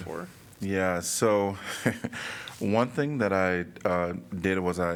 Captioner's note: laughter